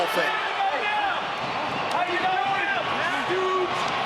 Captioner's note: crowd cheers